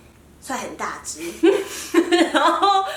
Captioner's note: laughter